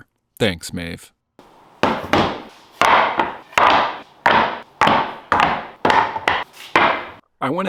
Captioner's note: banging